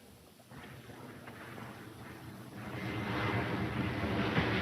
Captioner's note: plane engine rumbling